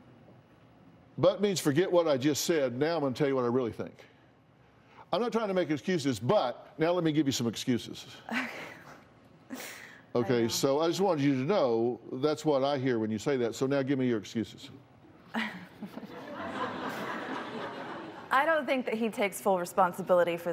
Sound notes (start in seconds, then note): 9.2 laughs; 17.0 laughter